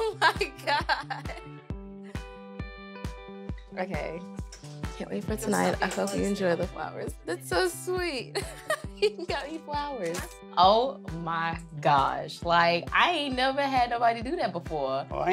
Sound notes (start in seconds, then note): 8.3 chuckles